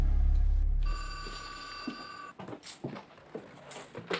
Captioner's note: phone ringing